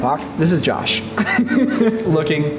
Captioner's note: laughs